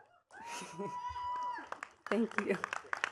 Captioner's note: attendees cheering and clapping